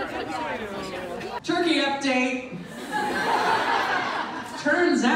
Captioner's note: audience laughs